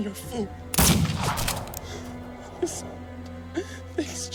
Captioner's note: gunshot blasts